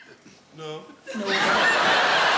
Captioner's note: audience laughing